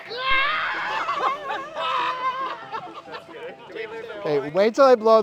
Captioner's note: screams; laughing